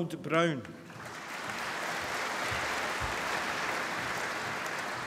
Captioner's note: applause